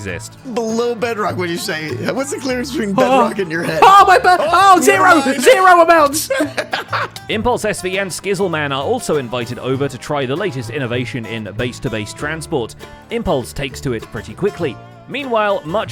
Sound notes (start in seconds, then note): 4.3 shouting; 6.8 laughs